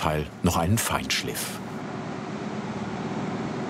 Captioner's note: machine noise